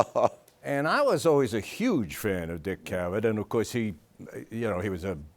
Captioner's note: laughs